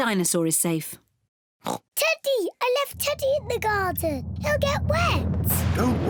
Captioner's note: oinks